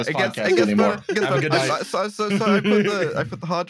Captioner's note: laughs